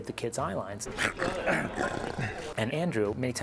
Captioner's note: growling